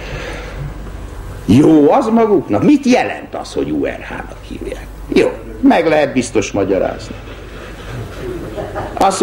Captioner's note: laughter